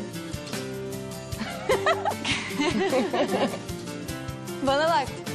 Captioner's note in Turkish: Gülme